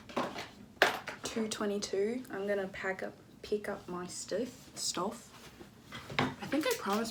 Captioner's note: in Australian accent